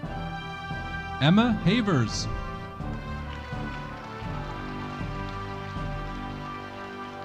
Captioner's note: audience applauding